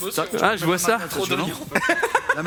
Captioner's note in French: rires